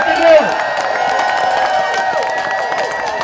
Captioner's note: audience cheering